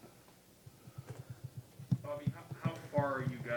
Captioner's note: tapping hands on podium